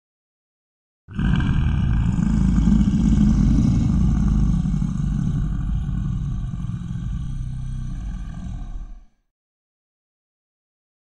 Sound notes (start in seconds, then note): 1.1 growl